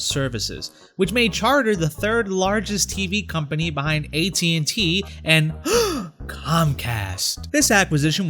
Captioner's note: gasp